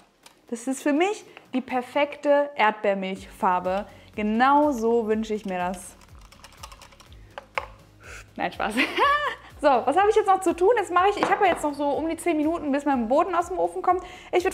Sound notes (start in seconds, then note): 9.0 laughing